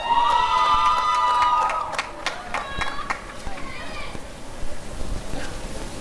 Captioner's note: applause and cheering